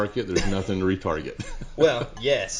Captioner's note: laughs